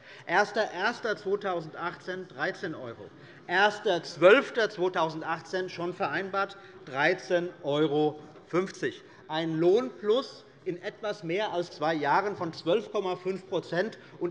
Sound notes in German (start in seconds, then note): none